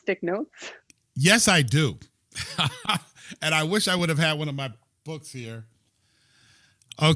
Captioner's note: laughter